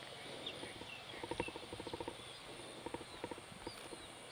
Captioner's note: insects chirping; birds chirping